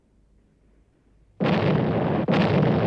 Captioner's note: explosions